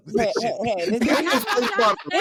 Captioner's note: laughing